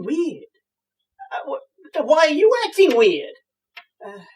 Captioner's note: stammers; sighs